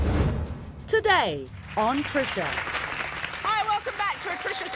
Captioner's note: audience applauding